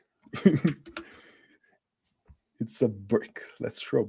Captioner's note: laughs